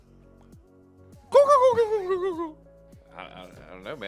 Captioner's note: turkey sound